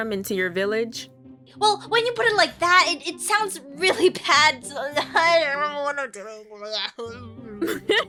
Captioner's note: sad noises; laughs